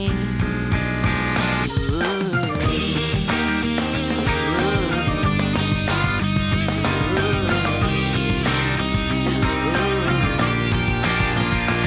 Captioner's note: phone Ringtone; vocalizing to Ringtone